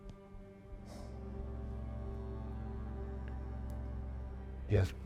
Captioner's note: Arawn exhales